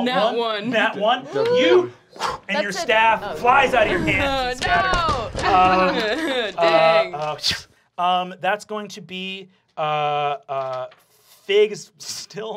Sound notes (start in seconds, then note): 2.9 whooshes; 3.7 wooden thumping